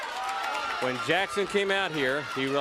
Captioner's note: crowd cheering